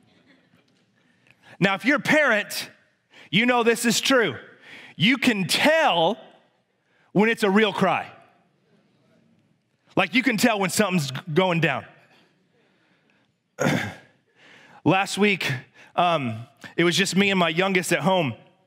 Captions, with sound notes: Now, if you're a parent, you know this is true. You can tell when it's a real cry. You can tell when something's going down. (clears throat) Last week, it was just me and my youngest at home.